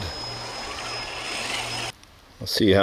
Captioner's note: engine roaring